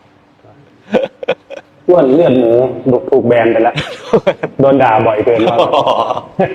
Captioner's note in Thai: เสียงหัวเราะ; เสียงหัวเราะ